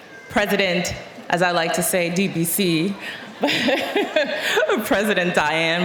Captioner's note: laughing